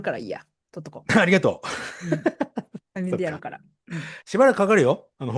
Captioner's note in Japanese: 笑い